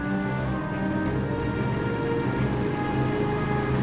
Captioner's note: engines hum